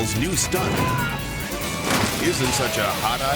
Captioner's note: bike crashes; onlookers cheering; Mr. Inferno shouts